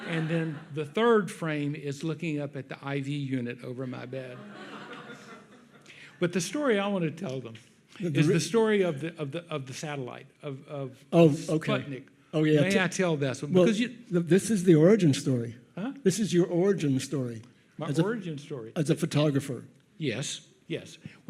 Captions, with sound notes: And then the third frame is looking up at the IV unit over my bed. (audience laughs) But the story I want to tell them is the story of the satellite, of Sputnik. May I tell this? - Well, this is the origin story. - Huh? - This is your origin story. - My origin story? - As a photographer. - Yes. Yes.